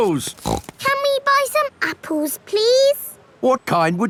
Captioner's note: snorts